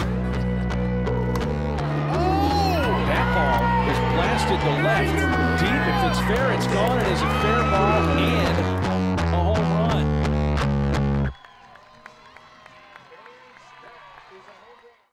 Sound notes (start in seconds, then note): 0.1 energetic music; 10.5 energetic music; 11.2 clapping